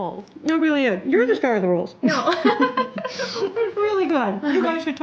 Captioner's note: laughing